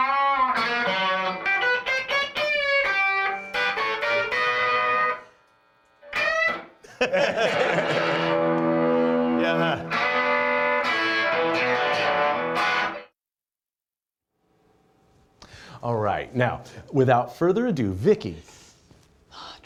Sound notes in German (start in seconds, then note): 0.0 spielt gitarre; 6.8 lachen